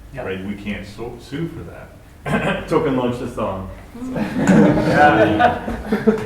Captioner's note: cough; laughter